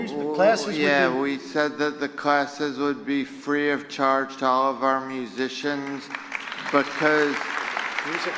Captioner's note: applause